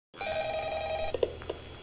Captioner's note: phone rings